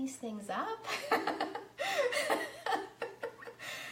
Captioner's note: laughs